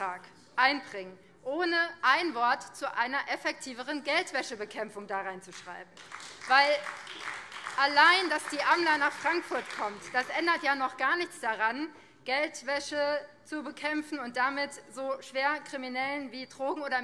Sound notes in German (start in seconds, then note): 5.9 Beifall BÜNDNIS 90/DIE GRÜNEN